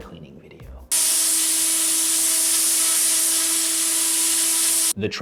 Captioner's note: high-pitched hissing